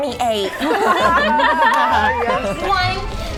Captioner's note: laughing